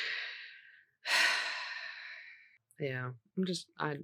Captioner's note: resigned sigh